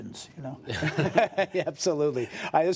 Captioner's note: laughter